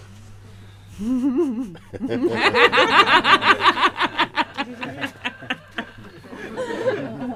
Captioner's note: questioner and laugh